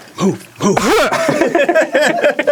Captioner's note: loud laughter; peaks the mic by coughing